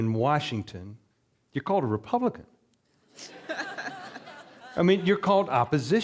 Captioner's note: audience laughing